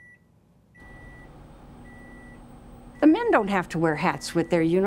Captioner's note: beeping